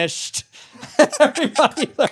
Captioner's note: laughing